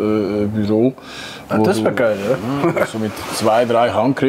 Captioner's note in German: lacht begeistert